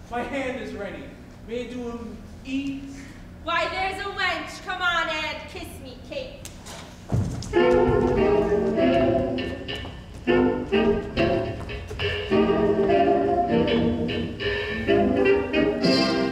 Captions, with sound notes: my hand is ready, may it do him ease? - Why, there's a wench. Come on, and kiss me, Kate. (hand smacks) (bright Vaudevillian music)